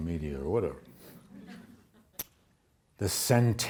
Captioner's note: audience laughs